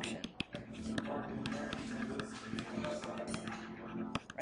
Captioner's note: stylus taps